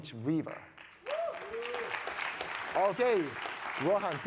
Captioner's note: audience applauding